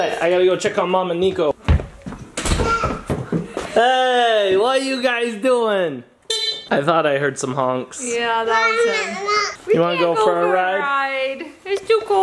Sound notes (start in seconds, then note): 6.3 honk